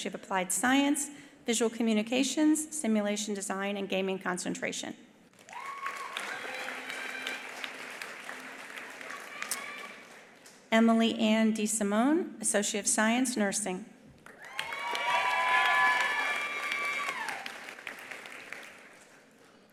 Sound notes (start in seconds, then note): 5.4 attendees applauding; 5.4 attendees cheering; 14.2 attendees applauding; 14.3 attendees cheering